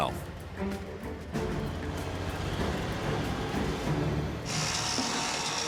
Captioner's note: dramatic music; truck roaring; machines whirring; dramatic music